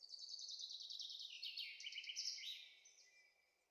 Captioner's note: birds singing